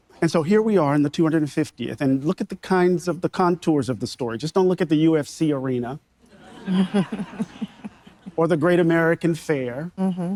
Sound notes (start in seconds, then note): 6.3 audience members laughing; 6.4 laughing